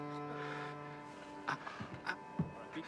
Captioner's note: groaning